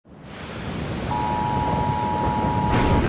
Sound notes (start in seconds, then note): 0.1 sound of heavy rain and thunder; 1.1 National Weather Service warning tone